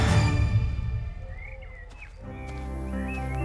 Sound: birds singing; tranquil music

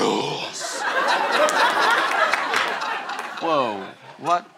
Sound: laughter

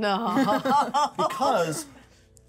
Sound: laughs

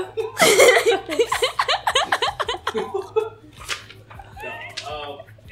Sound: laughing

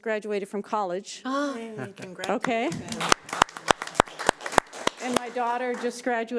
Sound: audience applauding

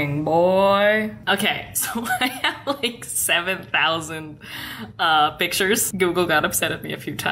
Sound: laughs

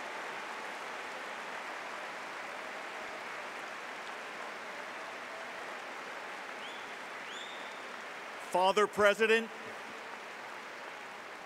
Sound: applause

